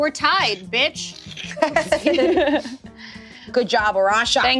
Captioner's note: everyone laughs